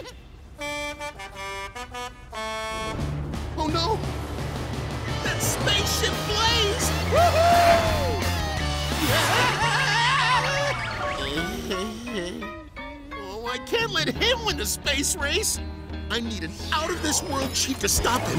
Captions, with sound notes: [truck horn] Oh no... that's Spaceship Blaze! Woo hoo! [screaming] Oh, I can't let him win the space race. I need an out of this world cheat to stop him.